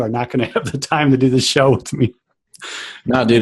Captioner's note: laughs